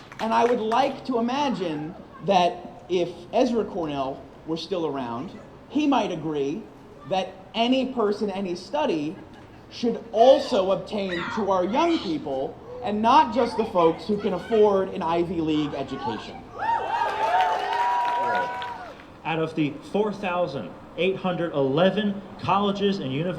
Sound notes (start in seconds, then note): 17.0 applause